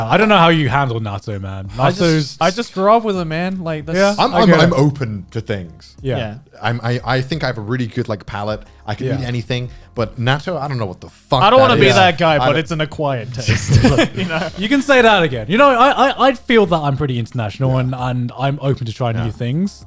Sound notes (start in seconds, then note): 13.3 guys laughing